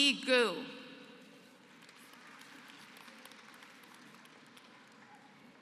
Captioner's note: applause